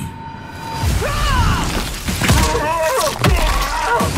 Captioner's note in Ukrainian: кричить